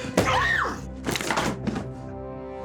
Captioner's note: scream